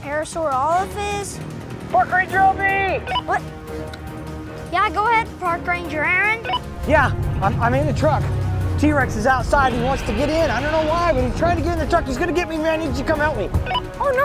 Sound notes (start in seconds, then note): 3.1 radio beeps